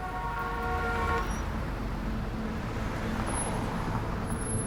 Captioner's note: vehicle honking